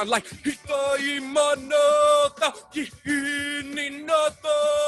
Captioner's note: chant in foreign language